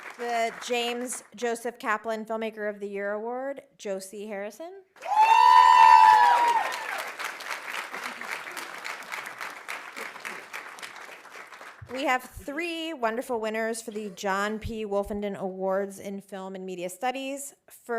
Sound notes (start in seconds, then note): 5.0 audience cheering; 5.0 audience applauding